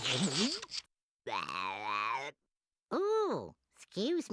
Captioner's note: Tweety salivating; belching